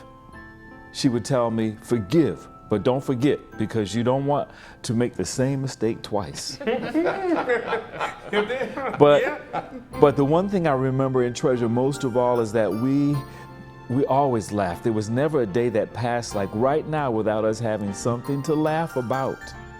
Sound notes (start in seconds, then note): 6.6 laughter